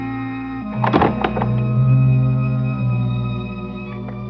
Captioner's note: clattering; ominous orchestral music